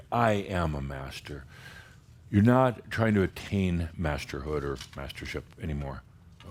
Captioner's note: none